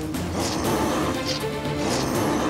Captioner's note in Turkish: Hırıltı sesi